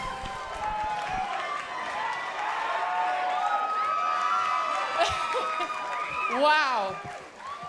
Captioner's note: cheers & applause